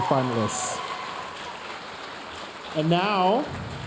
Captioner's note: audience cheering and applauding